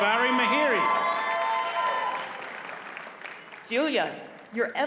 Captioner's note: audience cheers and applauds